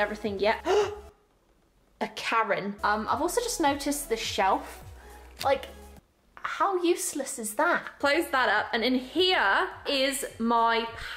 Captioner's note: gasp